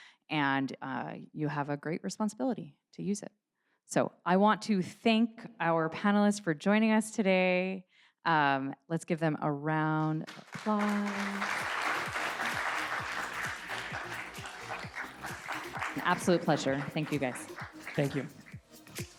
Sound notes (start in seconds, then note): 10.3 audience applauding